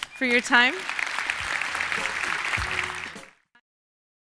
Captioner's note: applause